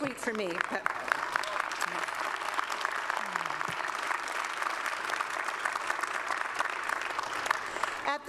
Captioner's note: applause